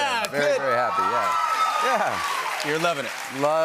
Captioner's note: cheers and applause